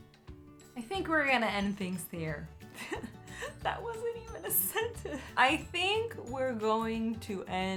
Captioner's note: chuckles